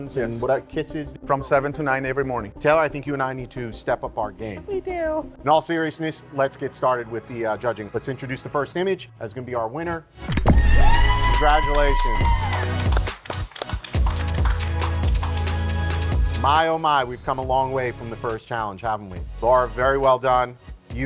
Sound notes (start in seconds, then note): 13.7 loud applause